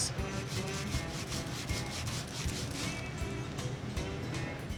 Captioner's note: luffa scratching skin